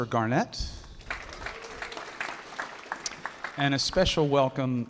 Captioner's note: audience applauding